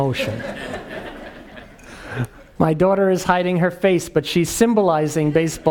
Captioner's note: laugh